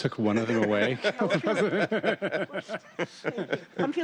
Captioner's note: laugh